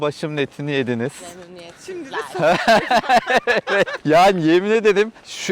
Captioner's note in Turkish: kahkaha